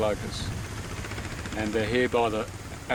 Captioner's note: motorbike rumbling